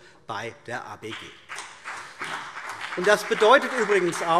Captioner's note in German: Beifall BÜNDNIS 90/DIE GRÜNEN und vereinzelt CDU